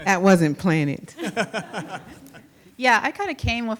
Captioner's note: panel member laughing